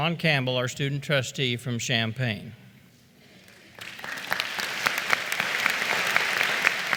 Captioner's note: applause